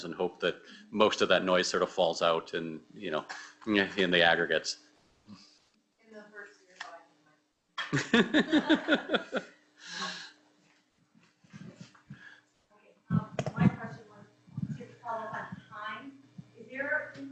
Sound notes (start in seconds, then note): 7.9 audience laughs; 8.0 speaks quietly